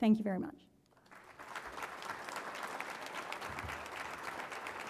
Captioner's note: applause